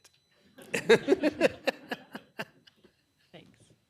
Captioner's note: laughter